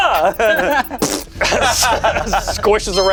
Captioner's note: imitates splat sound; everyone laughs